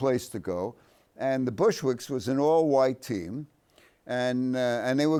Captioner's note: none